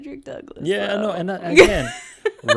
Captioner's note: laughs